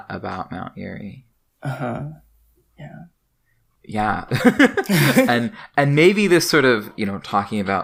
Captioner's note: both laugh